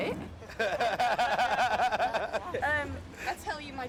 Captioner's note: guys laughing